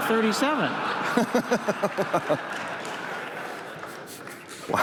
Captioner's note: laughter